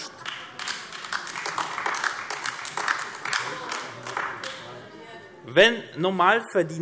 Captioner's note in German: Beifall AfD